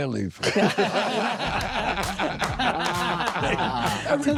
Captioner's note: laughing